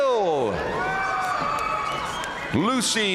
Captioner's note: audience cheering and applauding